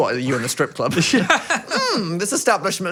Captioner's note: laughs